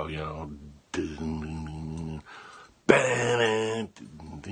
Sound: humming

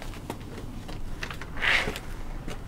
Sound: door opens

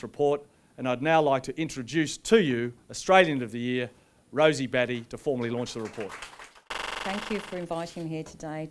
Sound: applause

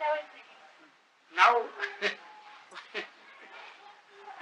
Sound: chuckles

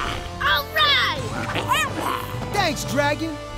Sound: grunting

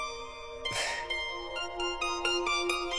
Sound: chuckle

